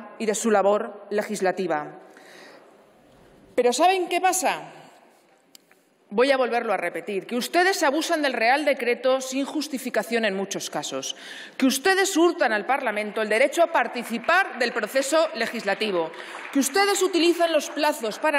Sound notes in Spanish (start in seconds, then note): 13.8 aplausos